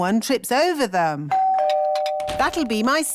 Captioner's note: doorbell rings